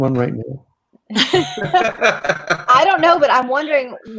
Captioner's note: many people laugh